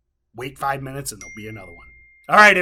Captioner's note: bell dings